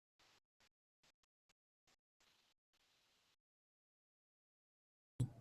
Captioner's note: audio cuts out